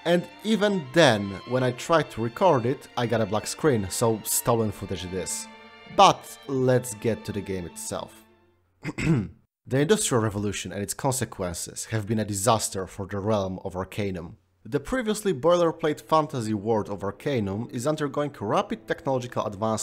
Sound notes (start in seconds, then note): 8.8 ahem